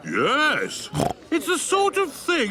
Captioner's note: snorts